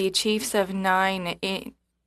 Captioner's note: speaking French